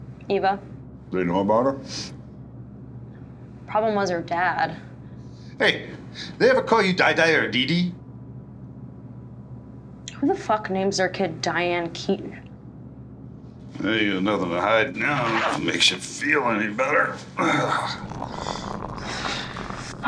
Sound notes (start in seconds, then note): 13.6 zipper; 17.3 sighs; 18.2 urinating